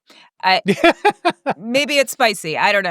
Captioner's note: laughing